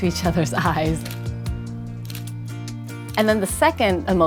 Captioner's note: shutter clicking